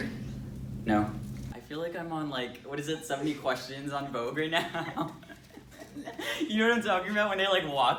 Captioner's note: laughter